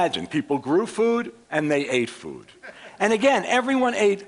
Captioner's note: laughter